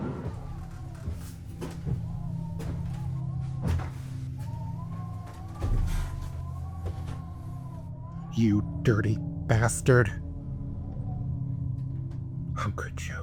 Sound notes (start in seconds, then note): 0.0 footsteps approaching from the stairway; 4.2 wind from drafty windows